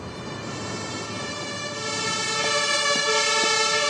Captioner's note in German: Sich näherndes Martinshorn